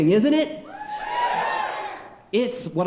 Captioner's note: audience cheering